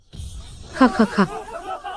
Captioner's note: cough cough cough!